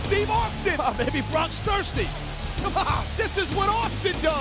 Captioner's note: laughs